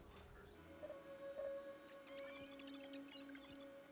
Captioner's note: beeping